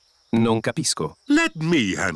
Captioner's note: replies in italian